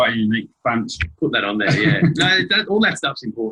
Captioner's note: laughter